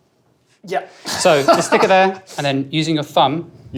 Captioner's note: laughs